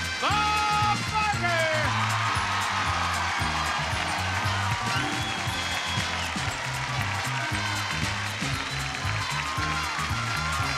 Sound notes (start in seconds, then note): 2.0 audience cheering; 2.0 exciting music